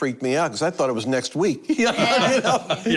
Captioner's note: laughter